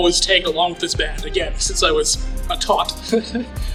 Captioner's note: laughs